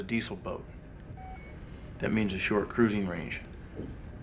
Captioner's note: none